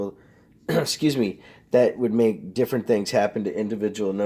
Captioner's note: clears throat